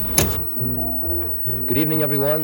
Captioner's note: knob clicking